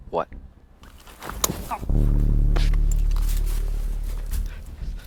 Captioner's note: Max groaning